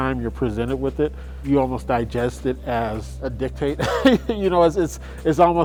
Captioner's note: laughs